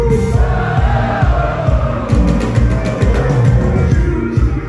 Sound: crowd

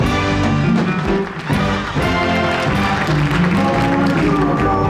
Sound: crowd applauds

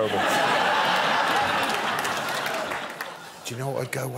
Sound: audience laughing

